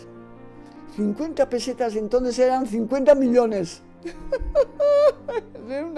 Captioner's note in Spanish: risa